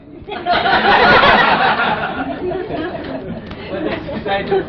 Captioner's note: laughter